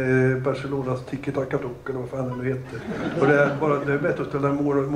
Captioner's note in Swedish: Skratt